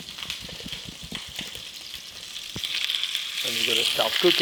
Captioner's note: butter sizzling